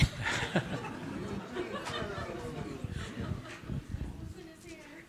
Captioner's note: audience laughing